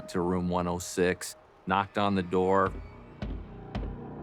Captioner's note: knocks booming